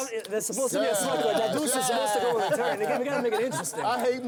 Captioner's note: group chatter